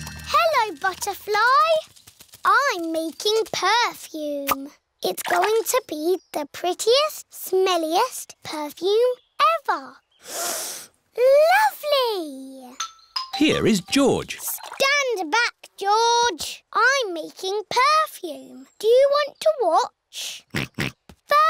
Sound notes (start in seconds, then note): 10.2 sniffs; 20.7 snorts